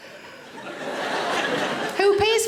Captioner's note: audience laughing